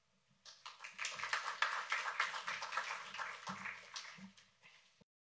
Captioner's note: applause